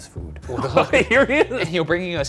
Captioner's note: laughing